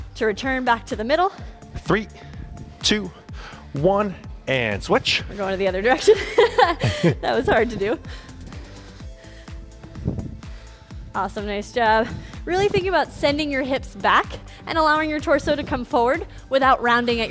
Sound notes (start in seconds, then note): 4.7 panting; 6.0 laughing; 8.5 upbeat music